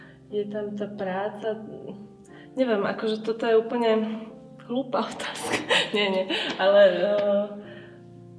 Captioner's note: laugh